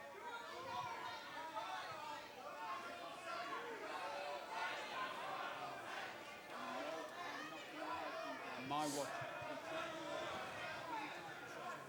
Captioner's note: crowd chatter